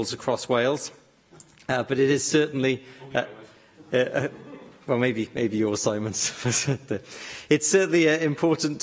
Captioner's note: laughter